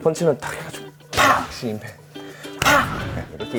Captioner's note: impact